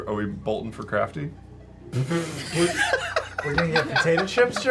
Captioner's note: laughter